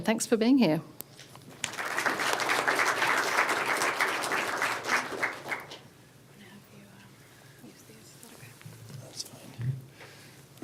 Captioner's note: applause